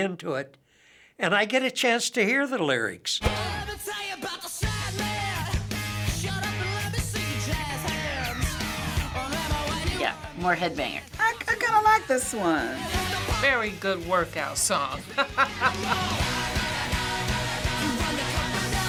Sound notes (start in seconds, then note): 15.0 laughs